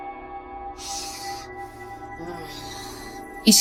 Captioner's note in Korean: 가쁜 숨결